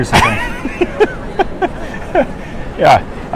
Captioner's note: laughs